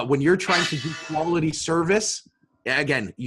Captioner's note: gong clangs